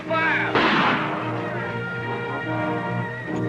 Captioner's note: gunshot